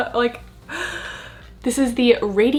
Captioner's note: gasps